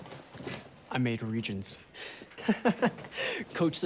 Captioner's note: laughs